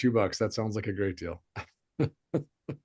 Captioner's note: chuckles